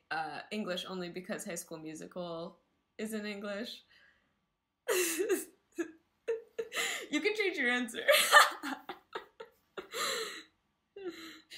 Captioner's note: laugh